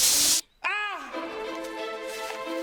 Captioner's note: painful yell